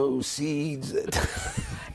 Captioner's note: laughter